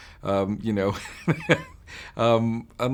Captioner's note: laughing